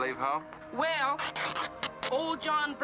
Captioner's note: cloth tearing